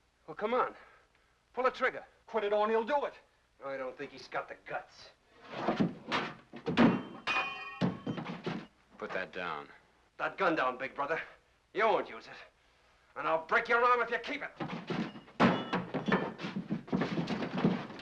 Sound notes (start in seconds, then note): 6.6 metal clangs; 14.6 sounds of struggling; 14.6 metal clang